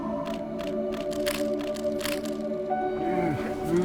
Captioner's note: cameras clicking